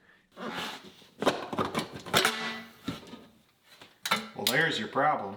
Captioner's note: metal box clanking